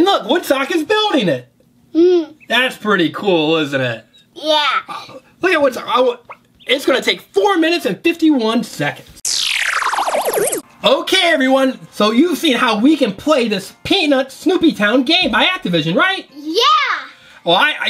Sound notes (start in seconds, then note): 9.2 electronic sounds